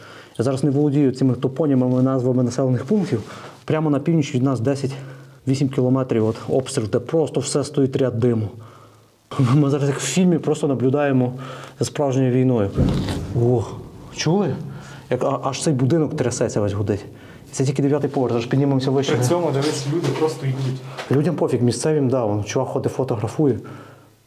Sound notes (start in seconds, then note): 12.7 sounds of explosions